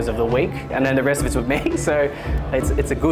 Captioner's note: chuckles